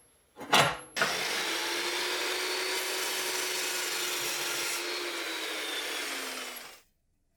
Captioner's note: chop saw whirring